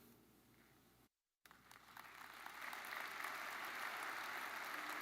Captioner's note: audience applauds